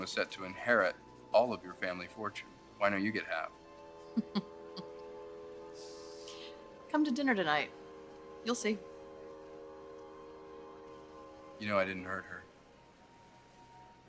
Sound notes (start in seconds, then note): 4.1 laughing